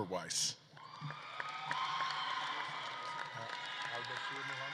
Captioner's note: audience claps and cheers